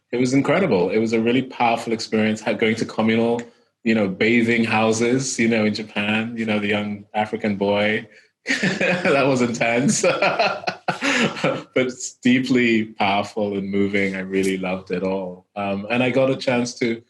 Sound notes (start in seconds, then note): 8.5 laughing